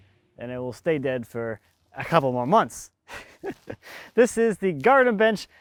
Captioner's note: laughs